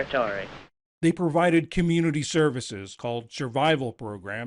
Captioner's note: voice-over